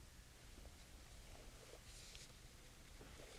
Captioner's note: none